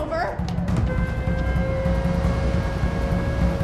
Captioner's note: air-raid sirens blaring